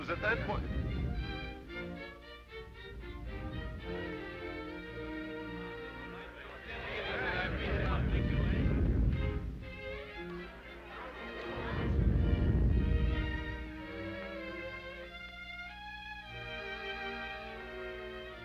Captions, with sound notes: And it was at that point- (canons rumbling) (people chattering) (canons rumbling) (soft orchestral music)